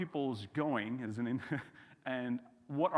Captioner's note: chuckles